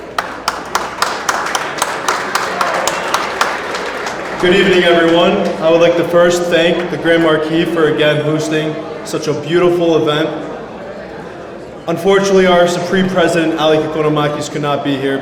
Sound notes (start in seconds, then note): 0.5 audience applauds